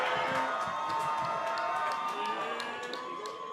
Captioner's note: graduates cheering